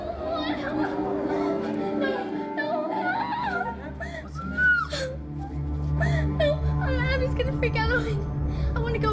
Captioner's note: crying